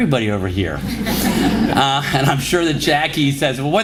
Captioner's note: laughter